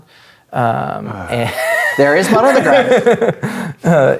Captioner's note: laughs